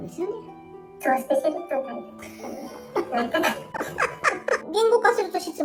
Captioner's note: laughs